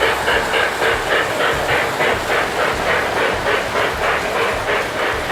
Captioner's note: trains continue to whir and chug